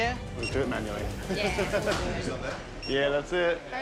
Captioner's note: card reader beeps; laughs